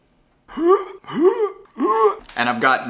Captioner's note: wheezing